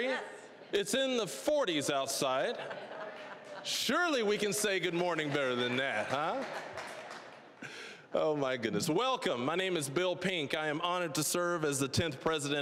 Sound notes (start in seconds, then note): 2.5 audience chuckling; 6.5 scattered applause; 7.9 chuckling